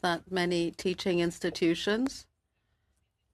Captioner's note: speaking French